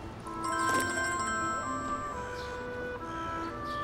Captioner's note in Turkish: Telefon çalıyor